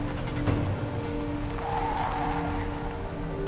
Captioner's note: tire squeal